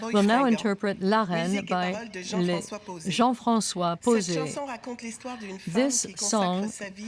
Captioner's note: speaking French